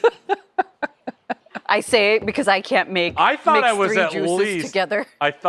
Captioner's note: laughter